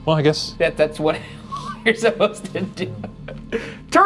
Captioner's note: laughing